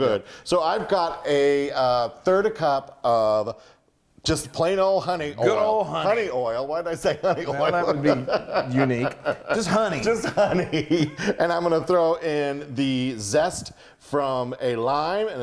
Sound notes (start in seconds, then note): 6.9 laugh